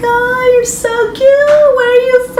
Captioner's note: Spanish